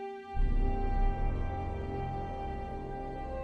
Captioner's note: none